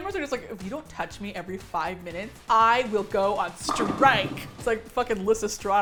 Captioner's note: bowling sound